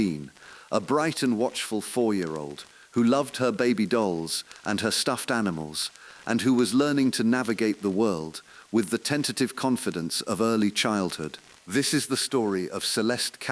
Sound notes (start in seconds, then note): 5.9 exhale